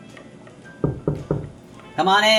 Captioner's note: door knocks